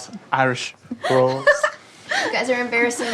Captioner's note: Veronica laughs